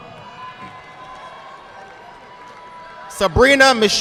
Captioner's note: audience clapping